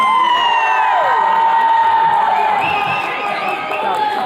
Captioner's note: attendees cheering